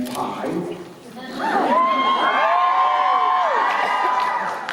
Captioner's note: cheers